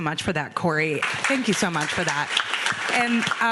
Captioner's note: audience clapping